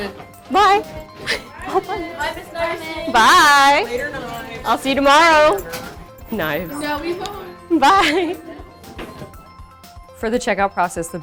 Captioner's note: sounds of students leaving